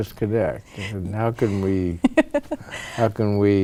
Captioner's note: laughter